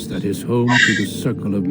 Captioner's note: sigh